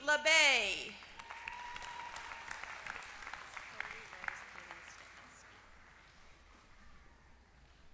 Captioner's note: applause